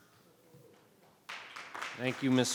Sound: audience clapping

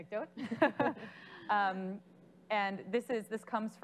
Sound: laughing

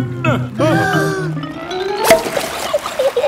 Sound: breathing in

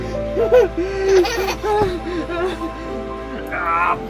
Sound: playing and giggling on the bed; giggles

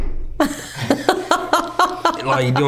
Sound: laughing

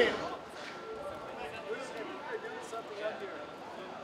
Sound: group conversing

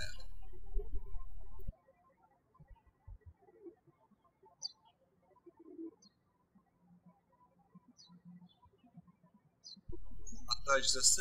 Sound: birds chirping

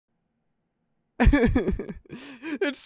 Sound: cries

